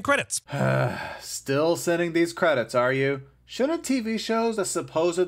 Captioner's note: sigh